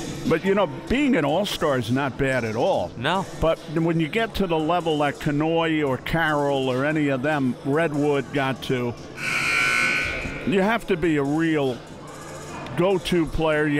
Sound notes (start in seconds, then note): 0.0 upbeat hiphop music; 9.1 buzzer sounding